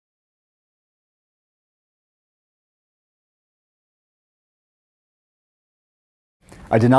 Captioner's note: no speech